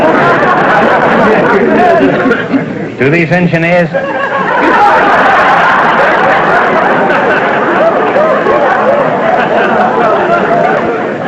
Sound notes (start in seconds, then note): 0.0 audience laughter; 3.9 laughter